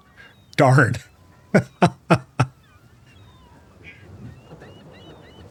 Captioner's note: laughing